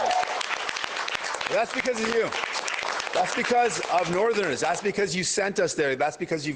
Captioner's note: cheers and Applause